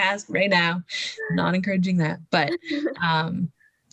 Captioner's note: both laughing